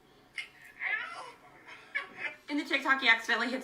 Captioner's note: Dobrik laughs